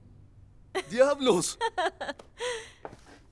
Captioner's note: Esperanza ríe